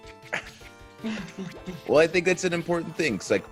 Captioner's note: laugh